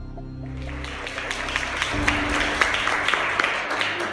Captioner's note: audience applauding